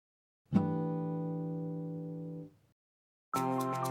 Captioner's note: chime sounds; upbeat music